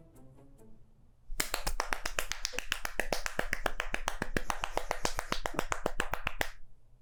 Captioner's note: chaotic clapping